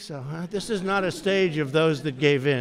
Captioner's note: laughter